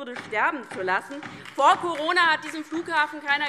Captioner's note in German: Beifall DIE LINKE